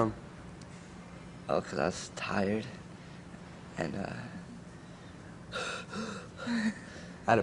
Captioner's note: gasping